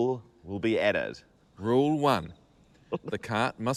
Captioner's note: giggles